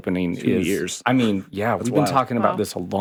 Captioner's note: chuckles